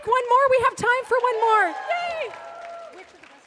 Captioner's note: audience cheering